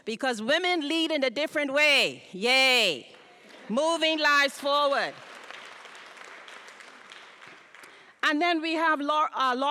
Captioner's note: applause